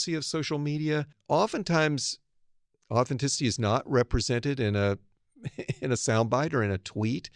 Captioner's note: laugh